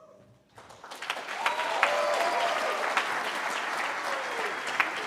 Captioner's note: cheering